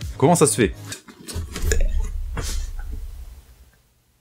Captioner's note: retches